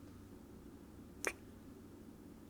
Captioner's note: kiss